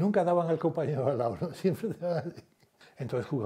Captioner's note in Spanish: Ríe